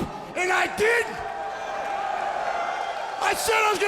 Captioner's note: audience shouting